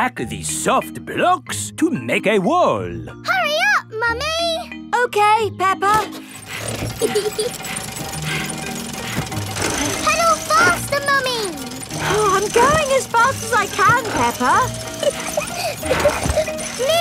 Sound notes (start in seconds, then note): 6.7 mummy pig panting; 6.8 peppa laughing; 14.7 peppa laughing